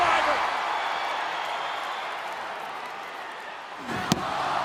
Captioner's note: audience cheering